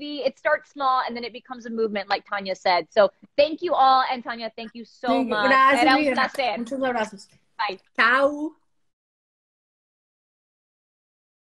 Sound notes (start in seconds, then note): 5.4 speaking spanish